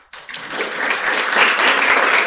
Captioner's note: applause